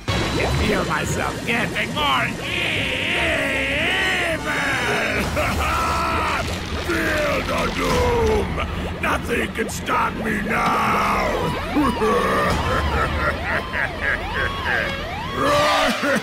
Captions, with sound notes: I can feel myself getting more e-e-evil! (In a deeper voice) HAHAA, FEEL THE DOOM! NOTHING CAN STOP ME NOW! (Evil laughing)